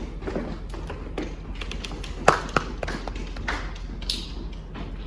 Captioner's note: light applause